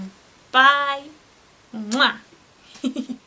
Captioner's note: giggles